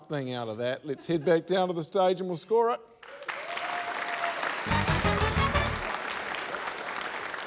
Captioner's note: cheering, applause